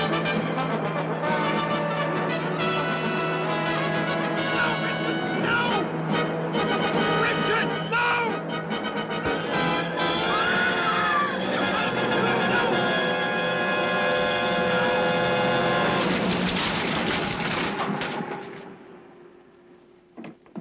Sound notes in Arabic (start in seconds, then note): 10.1 صراخ; 16.9 ضجيج ساحق